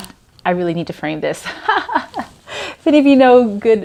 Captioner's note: laughs